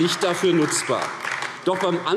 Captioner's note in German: Beifall AfD